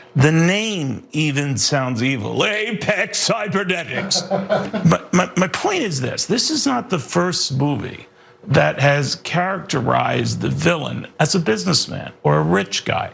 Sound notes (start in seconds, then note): 3.9 laugh